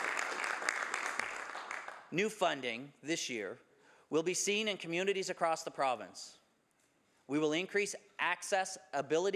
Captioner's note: some Applause